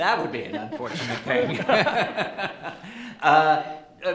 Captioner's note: laughs